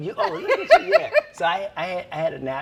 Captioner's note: laughs